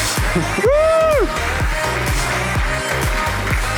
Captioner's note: cheering; upbeat music